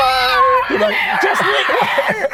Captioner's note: wails